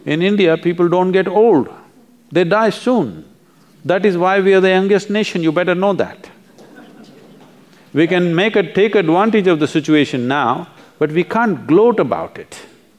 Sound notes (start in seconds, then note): 6.5 laughter